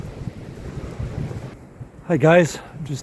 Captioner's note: wind